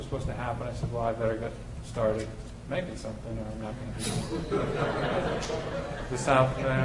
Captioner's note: laughter